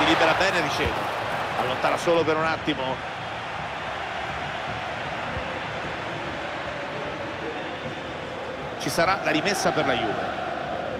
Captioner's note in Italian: Applauso